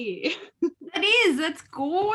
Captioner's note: laughs